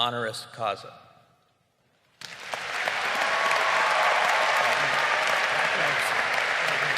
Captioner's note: crowd applauding